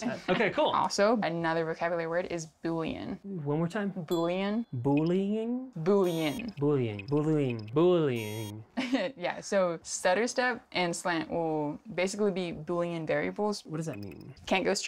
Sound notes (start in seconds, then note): 8.7 laughs